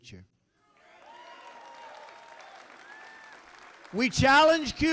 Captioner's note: applause